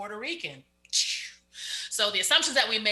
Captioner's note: exclaims